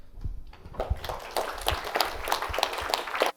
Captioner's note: applause